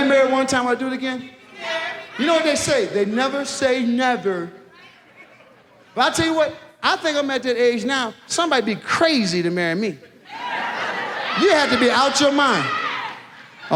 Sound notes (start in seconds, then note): 10.3 women in the audience shout